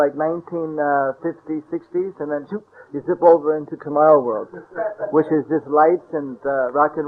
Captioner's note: laughter